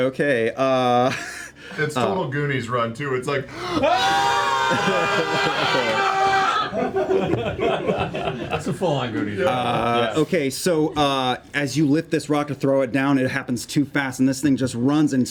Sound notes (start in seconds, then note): 3.6 yell; 4.6 laughter